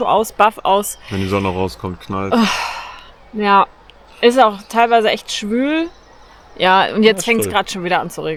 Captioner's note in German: seufzt